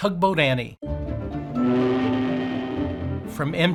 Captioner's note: foghorn blowing